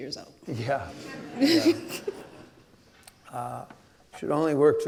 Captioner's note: audience laughing